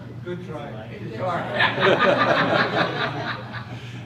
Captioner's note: crowd laughter